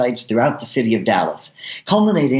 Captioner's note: none